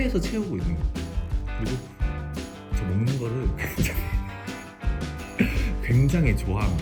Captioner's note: laughter